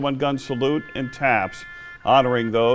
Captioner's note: 21 gun salute